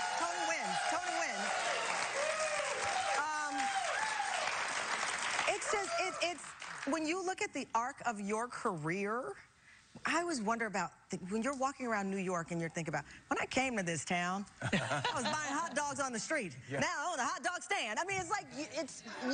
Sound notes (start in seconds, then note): 5.8 applause